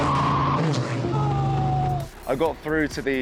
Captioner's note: screams